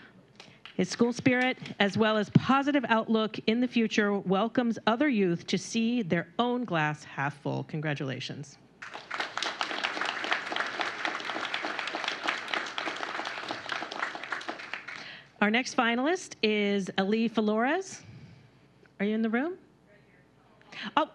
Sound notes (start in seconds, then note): 12.8 applause